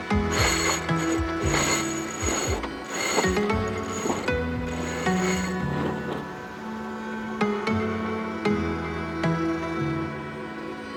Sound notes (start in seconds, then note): 0.0 pulleys whines; 6.7 bright music